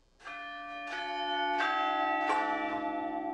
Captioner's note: bells ringing